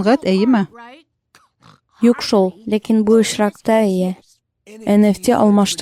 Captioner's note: snorts